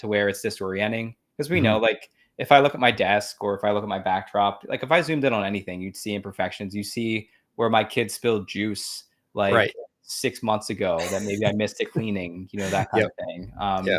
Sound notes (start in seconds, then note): 11.0 laughs